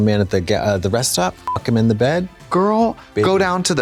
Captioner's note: beep